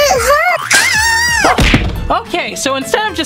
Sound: screams

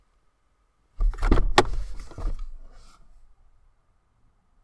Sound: car door opens

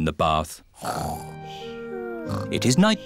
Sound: snoring

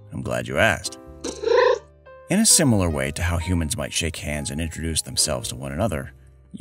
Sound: meow

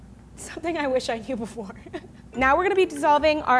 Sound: laughs

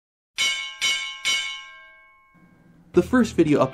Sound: bell rings

